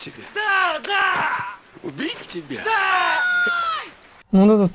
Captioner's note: scream